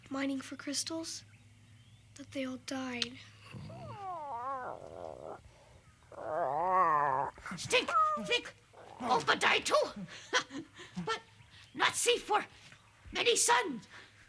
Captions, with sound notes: mining for crystals that they all died. - Aww. (Tasha babbles) - Stink think Opah die, too. But not see for many suns.